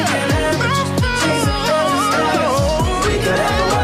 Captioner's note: ooh, ooh